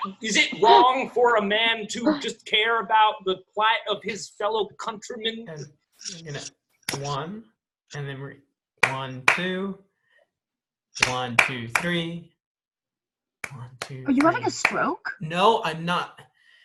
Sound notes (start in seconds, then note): 6.9 claps; 8.8 claps twice; 11.0 continues to clap with each count; 13.4 continues to clap with each count